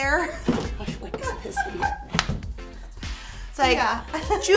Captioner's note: both laughing